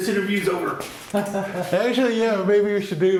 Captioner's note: laughs